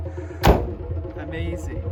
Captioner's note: door slams